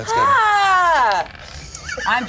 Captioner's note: yells